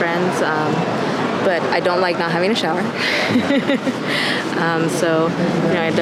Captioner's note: laughing